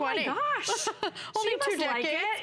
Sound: laughter

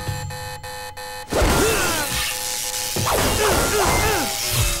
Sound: grunting

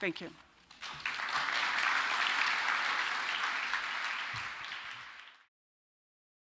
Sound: audience applause

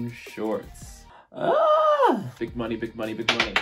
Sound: exclaims

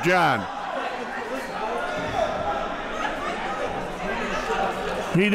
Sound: crowd cheering

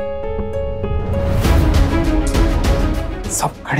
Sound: tsks

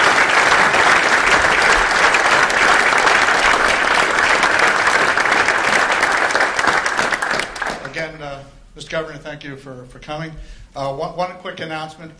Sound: applause

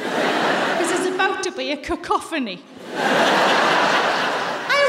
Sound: laughter

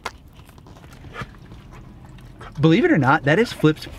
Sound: chewing

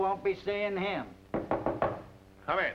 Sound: knock on door

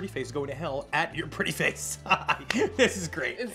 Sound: laughs

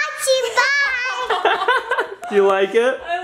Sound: laughter

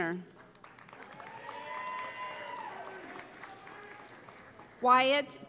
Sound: cheering

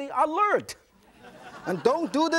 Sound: audience laughs

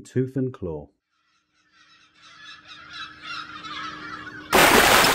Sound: gulls Calling; big Splash!

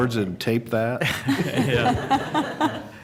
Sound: laughter

